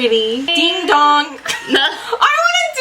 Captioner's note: both laugh